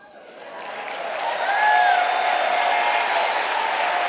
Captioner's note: applause